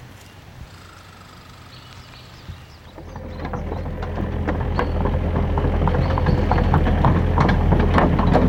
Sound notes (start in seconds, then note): 2.9 machine noises